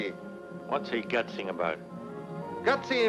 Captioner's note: man speaking in foreign language; speaks in foreign language; man speaking in foreign language